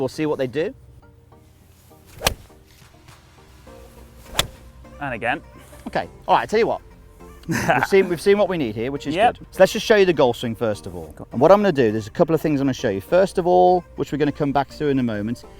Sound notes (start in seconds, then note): 2.0 golf ball hits; 7.3 laughs